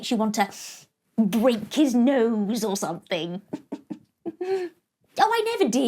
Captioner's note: giggles